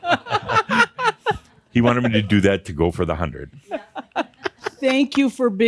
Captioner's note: they laugh; continues chuckling